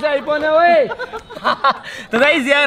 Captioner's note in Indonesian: Tertawa